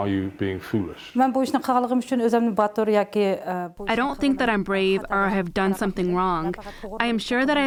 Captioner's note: through translator